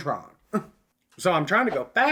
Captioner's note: scoff